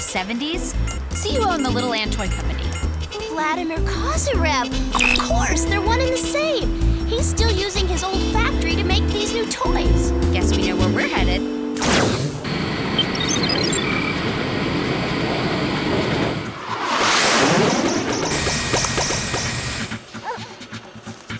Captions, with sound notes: Kozyrev line was from the '70s? See who owned the Little Ann Toy Company. Vladimir Kozyrev. Of course, they're one and the same. He's still using his old factory to make these new toys. Guess we know where we're headed. [beeping] [electronica music]